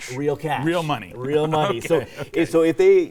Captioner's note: laughs